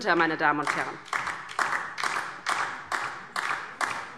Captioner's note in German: Beifall DIE LINKE